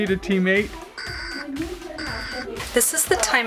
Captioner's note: alarm beeping